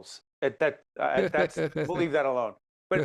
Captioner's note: chuckling